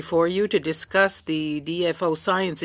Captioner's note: speaking French